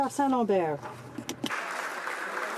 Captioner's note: some Applause